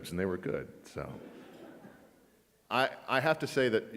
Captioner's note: audience laughs